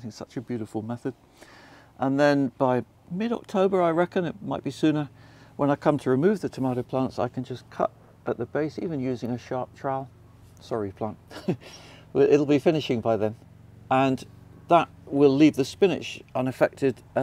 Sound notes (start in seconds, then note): 11.3 laughs